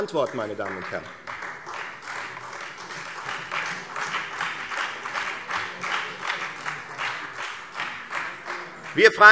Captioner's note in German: Beifall Freie Demokraten und vereinzelt CDU